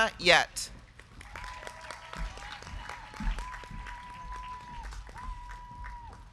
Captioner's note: crowd clapping; crowd cheering